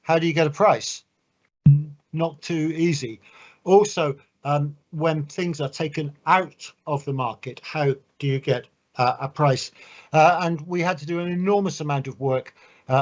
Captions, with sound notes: how do you get a price? (thumps microphone) Not too easy. Also, when things are taken out of the market, how do you get a price? And we had to do an enormous amount of work,